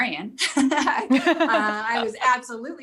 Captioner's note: both laugh